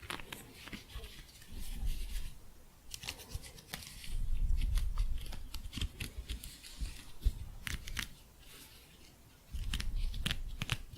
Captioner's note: scratching